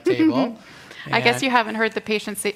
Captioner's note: chuckles